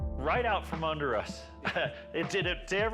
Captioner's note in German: lacht